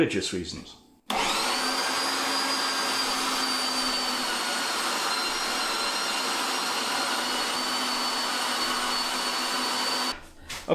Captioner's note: motor whirrin